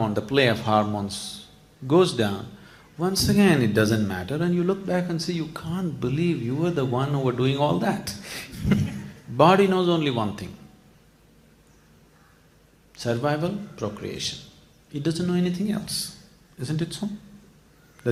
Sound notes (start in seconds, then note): 8.3 laughs